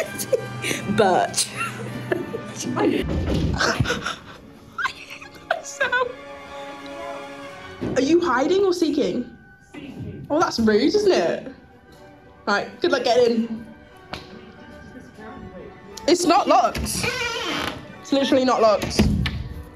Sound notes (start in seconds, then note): 0.0 giggling; 3.0 knocking, giggles; 3.4 giggling; 16.6 door creaks